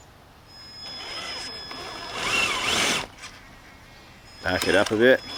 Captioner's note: engine roaring